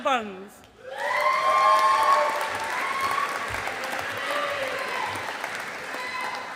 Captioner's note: audience applauding